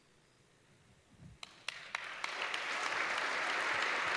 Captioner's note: applause